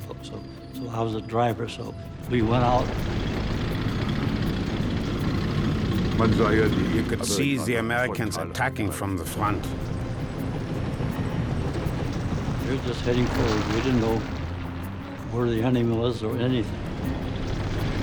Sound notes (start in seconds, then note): 3.4 tank engine whirring; 6.1 speaking in foreign language; 11.0 tank engines roaring; 17.7 tank engines roaring